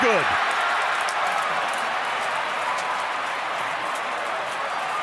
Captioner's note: crowd cheering